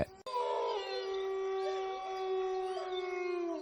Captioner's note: wolf howling, crickets chirping